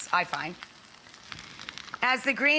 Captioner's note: pan sizzling